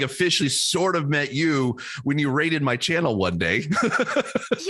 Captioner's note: laughs